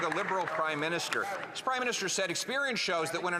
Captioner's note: some Applause